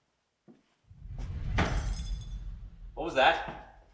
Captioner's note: air whooshing; glass shattering